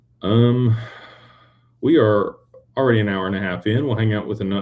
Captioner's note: sighs